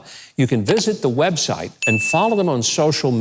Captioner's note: bell dinging